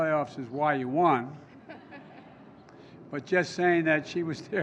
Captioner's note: laughter